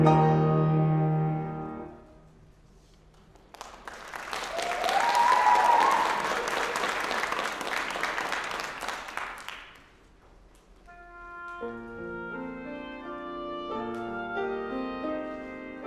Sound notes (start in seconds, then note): 3.4 applause, cheering; 6.8 applause